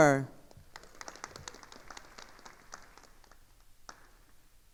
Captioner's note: attendees applauding